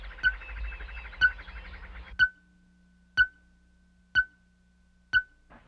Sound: beeping sound

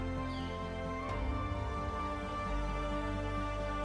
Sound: gentle music; birds chirping; gentle music

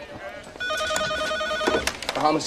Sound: phone rings

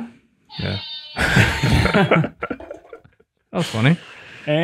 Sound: all laughing

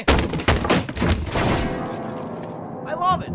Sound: stumbling down wooden stairs; crashing into Piano

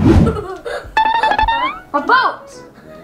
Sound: laughs

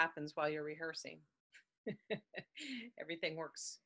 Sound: chuckles

